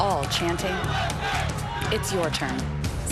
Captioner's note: crowd chanting